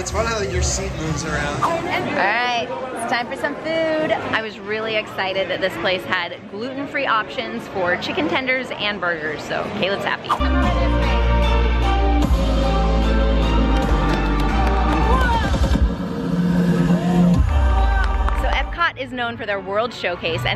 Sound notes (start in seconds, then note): 13.6 people clapping